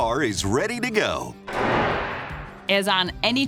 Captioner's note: gunshot